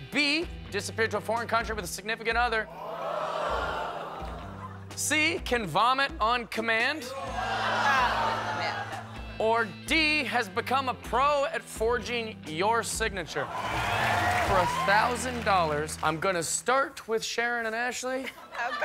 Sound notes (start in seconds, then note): 13.4 audience cheers